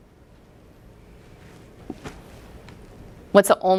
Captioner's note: pause